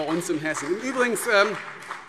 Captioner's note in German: Beifall BÜNDNIS 90/DIE GRÜNEN und vereinzelt CDU